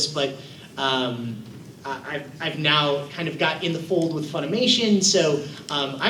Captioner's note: none